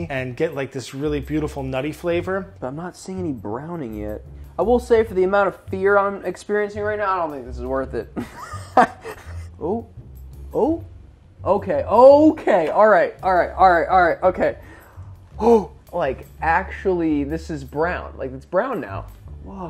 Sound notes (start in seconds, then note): 8.2 laughs